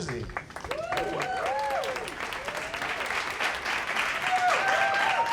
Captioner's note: audience cheers